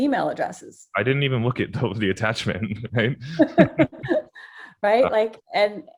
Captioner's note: laughs